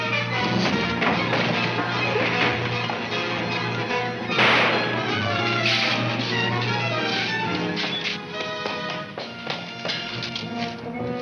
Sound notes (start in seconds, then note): 4.3 gun fires